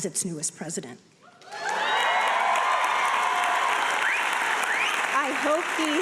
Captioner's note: audience cheering and applauding